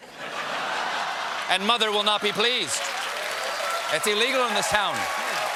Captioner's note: laughter